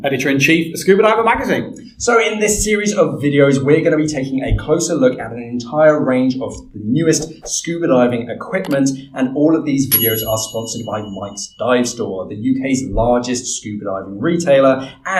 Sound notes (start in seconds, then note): 7.4 graphic whooshes; 9.9 bell ringing